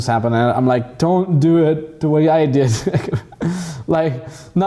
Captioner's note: laughs